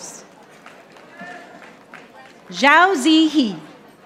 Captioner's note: audience applauding